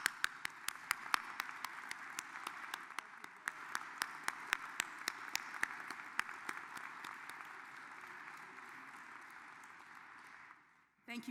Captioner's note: applause